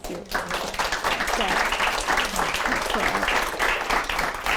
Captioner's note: applause